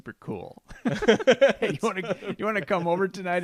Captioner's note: laughing